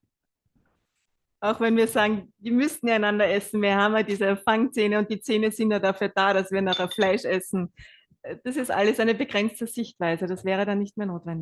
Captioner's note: German live translation